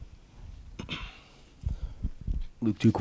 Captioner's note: clears throat